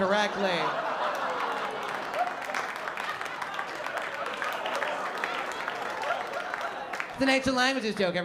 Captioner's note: applause and laughter